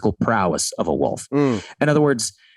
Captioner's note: Rob humming agreeingly